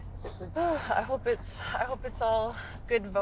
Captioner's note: sighs